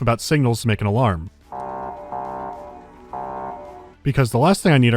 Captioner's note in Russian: предупреждающий гудок